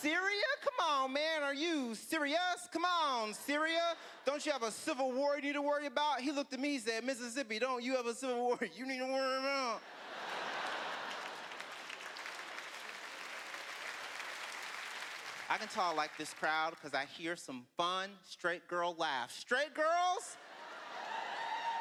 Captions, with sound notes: Syria?! Come on, man! Are you 'Syri-us'? Come on, Syria! Don't you have a civil war you need to worry about?" He looked at me, he said, "Mississippi, don't you have a civil war you need to worry about?" (laughter) (applause) I can tell I like this crowd because I hear some fun, straight girl laughs. Straight girls! (cheering)